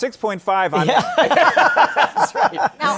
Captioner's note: laughter